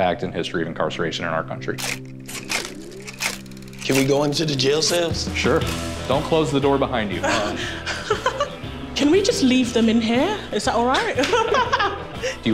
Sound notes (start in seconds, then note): 1.8 camera clicking; 7.2 laughs; 11.2 laughs